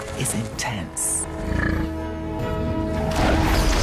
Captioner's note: grunts